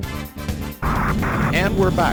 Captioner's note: radio statics